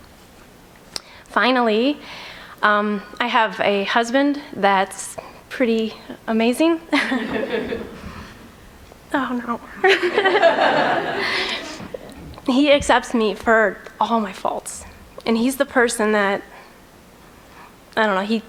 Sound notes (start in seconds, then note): 7.0 laughs; 9.7 giggles